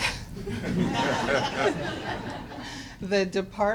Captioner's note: laughter